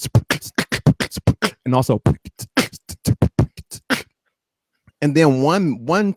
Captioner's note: beat-boxing